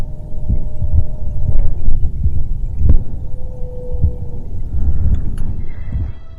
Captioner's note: howl?